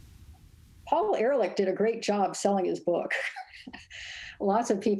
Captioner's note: laughs